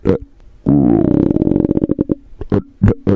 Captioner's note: rawr